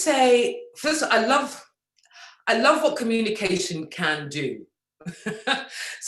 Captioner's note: laughs